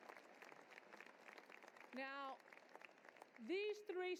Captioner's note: applause